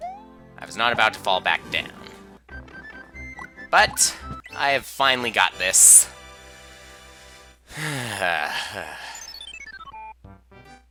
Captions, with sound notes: I was not about to fall back down. But...I have finally got this. (*long sigh*)